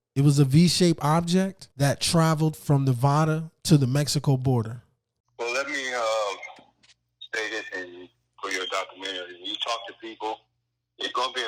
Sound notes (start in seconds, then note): 5.5 recorded Voice